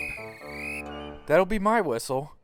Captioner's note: guard blows whistle